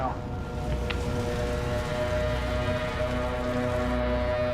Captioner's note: siren blaring